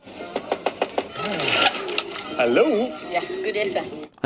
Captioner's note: door opening